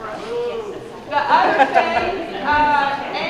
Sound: crowd chuckling

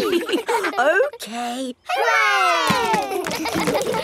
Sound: chuckles; kids laughing

